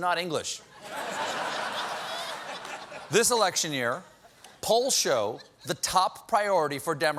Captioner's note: laughter